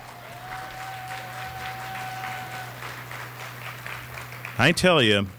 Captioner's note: applause